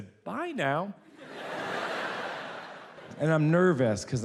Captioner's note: audience laughs